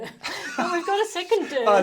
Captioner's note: both chuckling